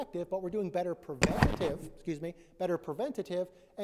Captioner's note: mic scuffling